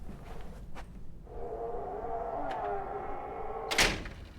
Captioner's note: door creaks